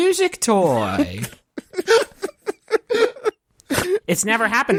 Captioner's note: giggling